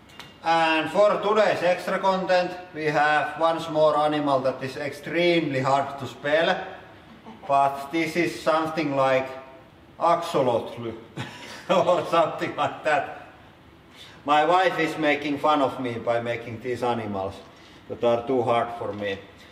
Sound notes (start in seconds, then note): 11.2 chuckles